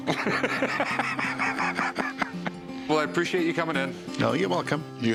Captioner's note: laughs